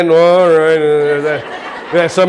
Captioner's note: audience laughing